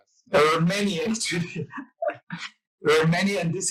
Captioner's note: laughs